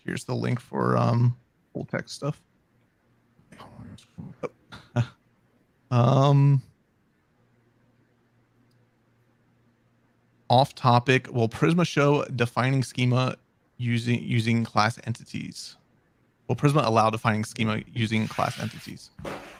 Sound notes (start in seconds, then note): 3.8 mumbling; 4.8 chuckling